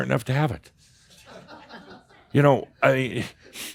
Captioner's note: more chuckles